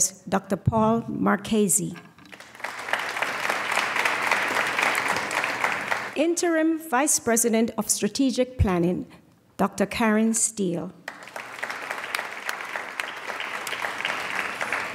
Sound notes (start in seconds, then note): 2.3 applause; 11.0 applause